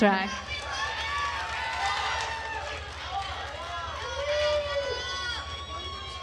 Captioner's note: attendees cheering and applauding